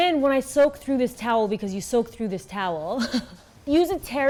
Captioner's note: chuckles